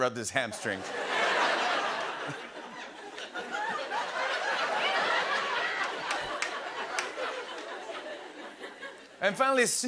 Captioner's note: laughter